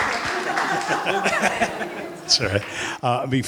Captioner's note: laughter